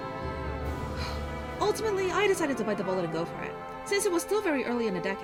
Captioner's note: sighs